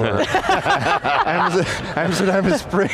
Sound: laughing

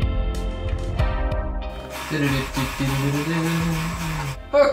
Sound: aggressively scrolling mouse wheel

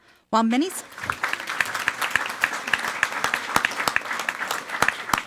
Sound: everyone applauding

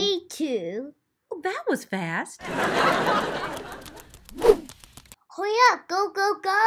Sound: audience laughs

